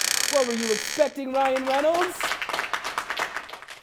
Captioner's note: applause and clapping